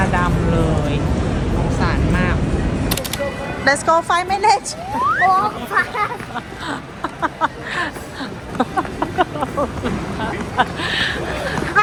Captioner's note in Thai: เสียงหัวเราะ